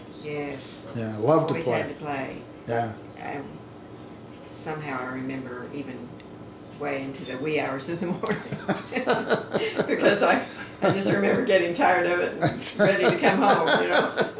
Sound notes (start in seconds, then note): 8.0 laughing; 14.1 both laughing